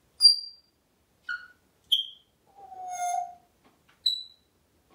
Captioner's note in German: whistling; tweet sounds